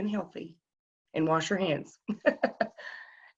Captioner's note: laughs